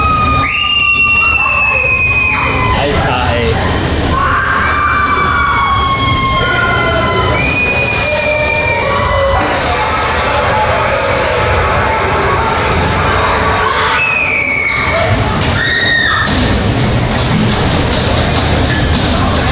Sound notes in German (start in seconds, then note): 8.1 schreien